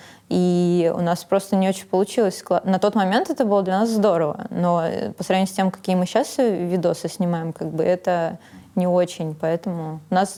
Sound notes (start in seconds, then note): none